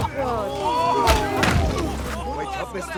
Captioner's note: groaning